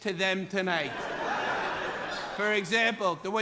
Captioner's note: laughter